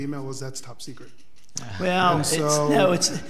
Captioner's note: board laughs